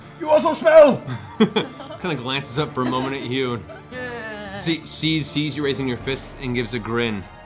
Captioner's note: chuckles